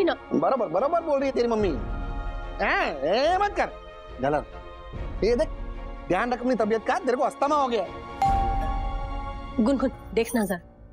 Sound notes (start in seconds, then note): 8.2 doorbell chimes